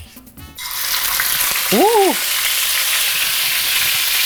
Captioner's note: pan sizzling